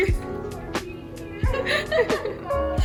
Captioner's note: sarcastically; everyone laughs